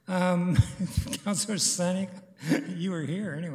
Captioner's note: chuckling